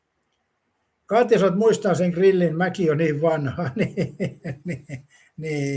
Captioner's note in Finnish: naurua